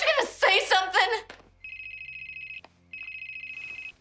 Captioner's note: cell phone rings